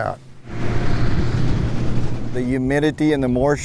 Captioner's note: combine whirring